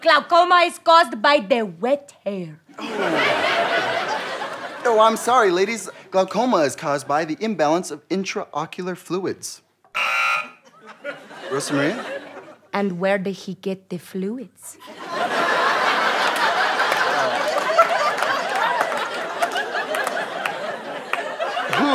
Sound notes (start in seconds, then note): 2.7 audience laughter; 9.9 buzzer; 14.8 audience laughter